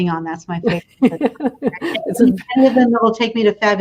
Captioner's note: laughter